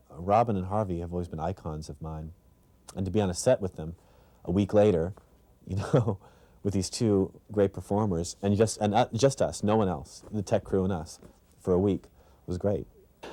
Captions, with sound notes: Robin and Harvey have always been icons of mine. And to be on the set with them, a week later, you know, [laughter] with these two great performers. And just, just us. No one else. The tech crew and us. For a week. It was great.